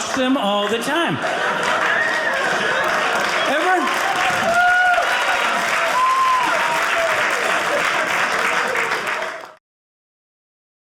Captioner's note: audience cheering